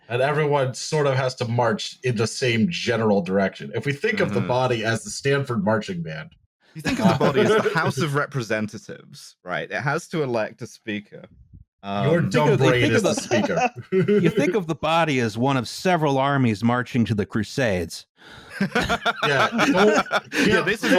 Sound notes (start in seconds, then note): 6.8 laughter; 12.6 laughter; 18.4 laughs; 18.4 laughter